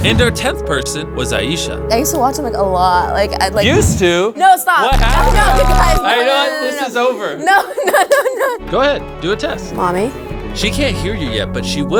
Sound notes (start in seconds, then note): 7.8 laughing